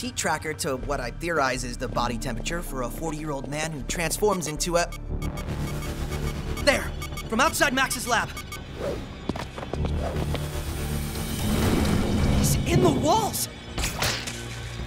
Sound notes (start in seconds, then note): 4.1 radar beeping; 8.3 tense music